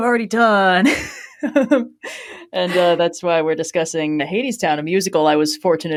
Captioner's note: laughs